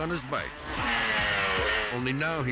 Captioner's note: bike buzzing